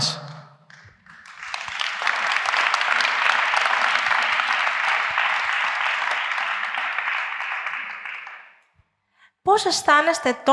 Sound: applause

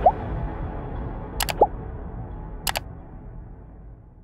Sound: clicking sound

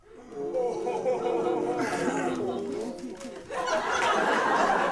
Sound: le Gasp

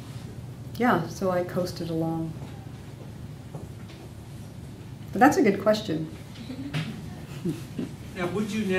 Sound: scattered laughing

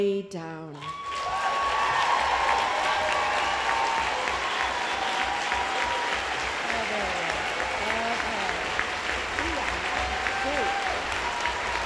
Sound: applause

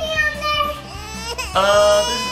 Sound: baby crying

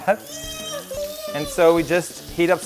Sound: baby cries

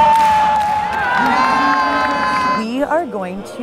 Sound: cheering

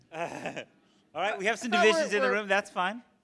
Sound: laughs

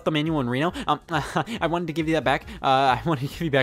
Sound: chuckles

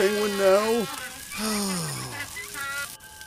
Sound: sighs

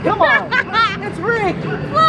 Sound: laughing

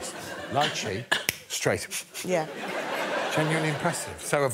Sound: sniffs

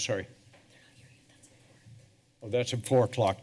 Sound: whispering

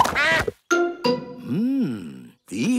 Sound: quacks

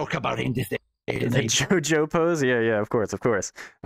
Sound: laughing

